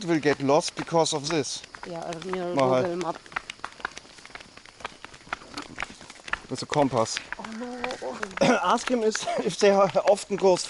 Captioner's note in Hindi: तालियां